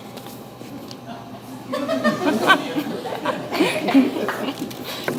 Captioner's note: audience laughs